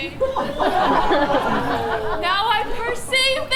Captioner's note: audience laughs